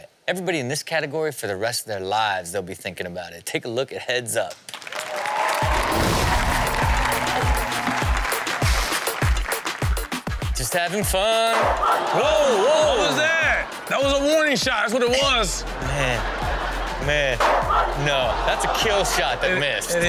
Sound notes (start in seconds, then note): 4.8 audience cheers; 7.0 upbeat music